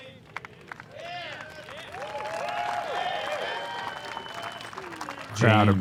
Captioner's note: applause